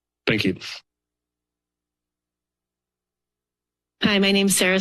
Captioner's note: silence